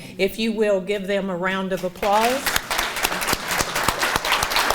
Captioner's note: audience applauding